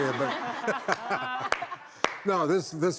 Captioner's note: laughing